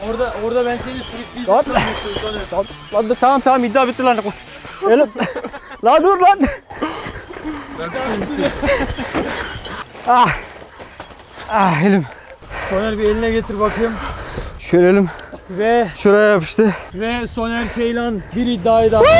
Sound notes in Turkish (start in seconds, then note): 4.6 Gülüşmeler